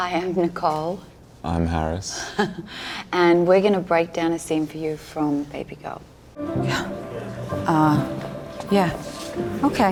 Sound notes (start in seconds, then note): 2.4 laughing